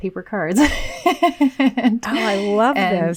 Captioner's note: laughing